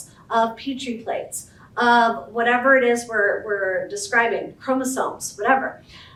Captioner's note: none